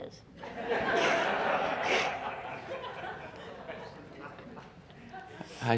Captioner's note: laughter